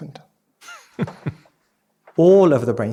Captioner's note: chuckling